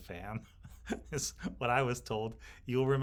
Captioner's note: laughs